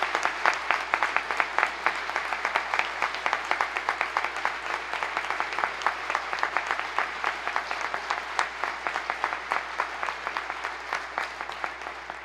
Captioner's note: applause